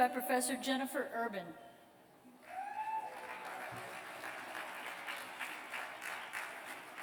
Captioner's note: applause